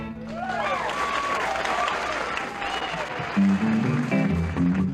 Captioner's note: audience cheering; new song begins